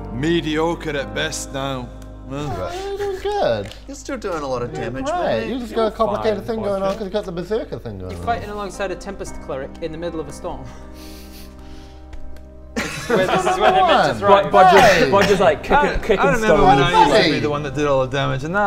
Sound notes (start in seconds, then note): 12.8 uncaring laugh